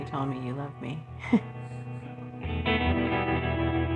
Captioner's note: chuckles